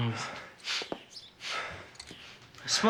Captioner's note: Joe sniffing